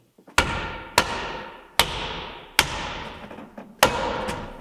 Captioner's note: board thudding